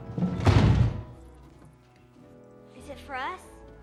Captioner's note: thud